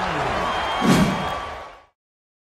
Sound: woosh

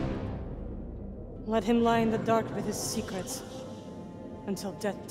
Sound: with distorted echos

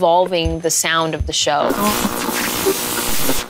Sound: static crackles

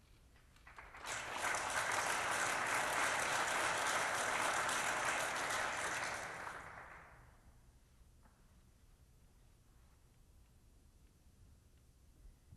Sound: applause

